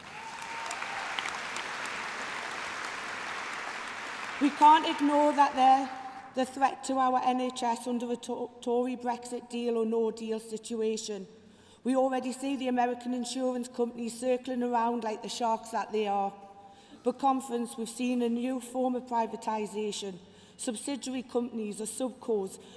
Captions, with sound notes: They may say they value us, you know what conference? The truth is simple. You cannot trust the Tory with our NHS! (applause) we can't ignore that the threat to our NHS under the Tory breaks is it deal or no deal situation, we already see the American